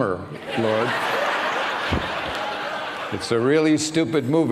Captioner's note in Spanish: risas